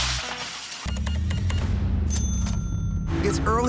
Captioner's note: register beeps, dings